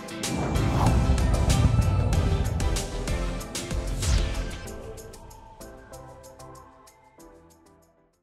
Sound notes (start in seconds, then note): 0.1 graphics whooshing; 3.9 logo whooshing